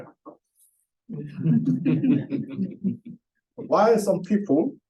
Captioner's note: laughter